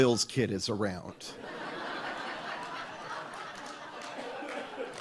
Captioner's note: audience laughs